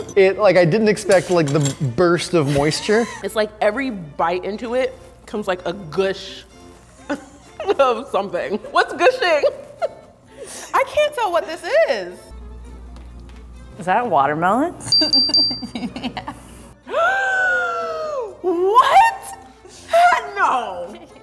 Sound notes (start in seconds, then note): 9.6 laughing; 14.9 bell dinging; 15.6 laughing; 16.8 gasping